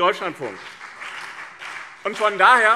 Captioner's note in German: Beifall BÜNDNIS 90/DIE GRÜNEN und CDU